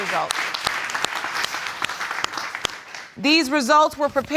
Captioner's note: audience applauds